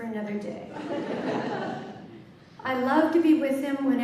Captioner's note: laughter